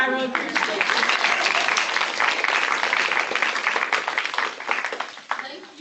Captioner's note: applause